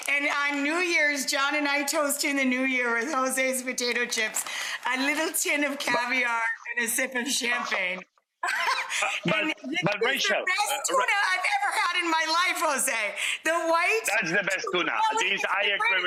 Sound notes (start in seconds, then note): 8.4 laughs